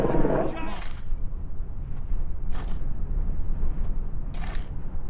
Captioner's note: wind rustling